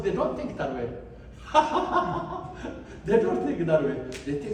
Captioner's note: laughs